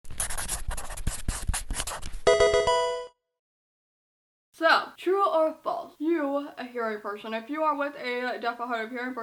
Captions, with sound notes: (marker scratching) (electronic video game chime) So, true or false? You, a hearing person, if you are with a deaf or hard-of-hearing person